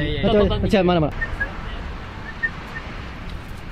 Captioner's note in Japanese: 口笛